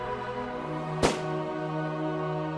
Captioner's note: gun shot